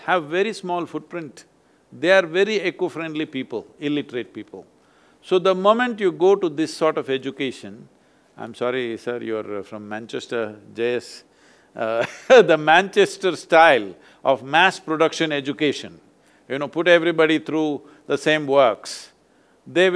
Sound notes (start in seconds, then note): 11.4 laughs